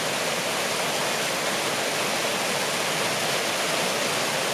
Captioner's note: waterworks gushing